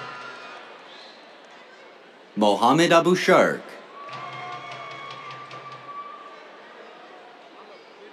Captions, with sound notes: Mohammed Abu-Sharkh. [CHEERS, DRUMMING]